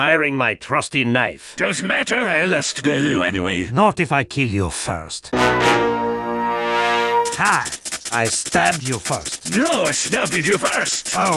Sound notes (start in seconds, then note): 7.3 stabbing noises